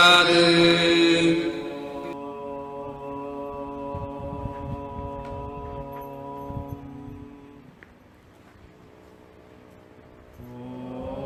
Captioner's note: chant